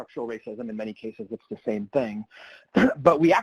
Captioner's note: clears throat